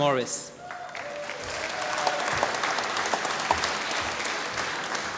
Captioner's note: applause